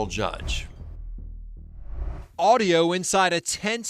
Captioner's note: graphics whoosh